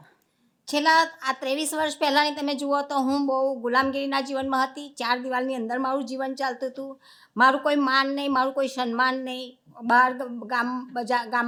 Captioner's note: speaking gujarati